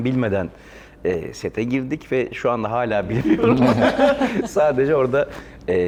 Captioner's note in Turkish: kahkaha